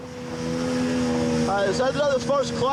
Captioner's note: boat engine revving